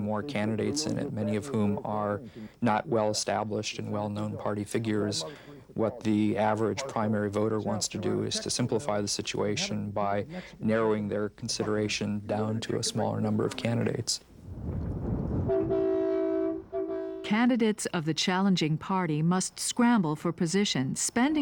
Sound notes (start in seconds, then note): 15.4 horn honking